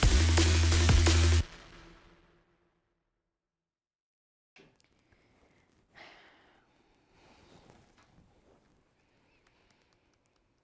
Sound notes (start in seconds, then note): 0.0 upbeat music ends; 5.9 Eden exhales